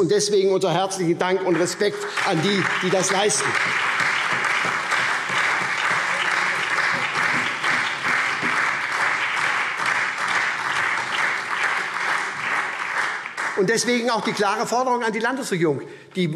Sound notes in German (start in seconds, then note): 3.4 Beifall SPD, vereinzelt CDU und BÜNDNIS 90/DIE GRÜNEN